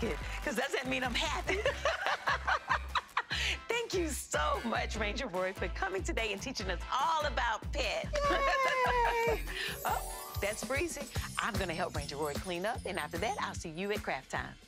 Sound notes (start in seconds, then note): 1.4 laughter; 9.1 chimes